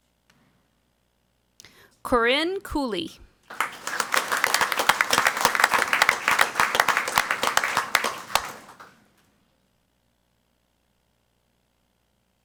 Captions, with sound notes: Corinne Cooley. (crowd clapping)